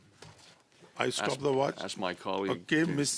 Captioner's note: speaking French